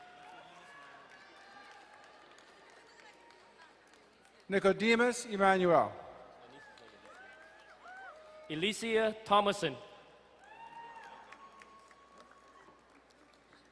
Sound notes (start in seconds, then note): 0.0 crowd cheering and applauding; 6.3 distant cheering; 10.4 distant cheering